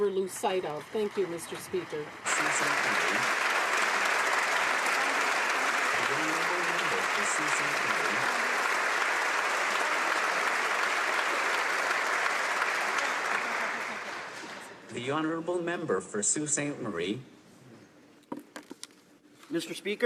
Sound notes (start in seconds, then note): 7.7 applause